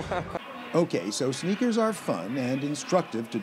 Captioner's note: laughter